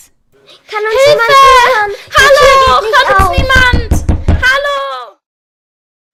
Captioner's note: cries for help